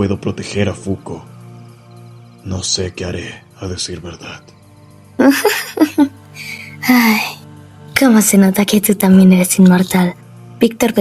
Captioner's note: giggles